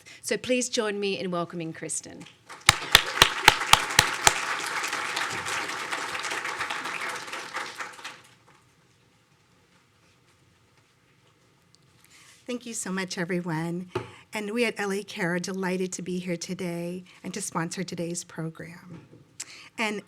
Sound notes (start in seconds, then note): 2.5 audience applauding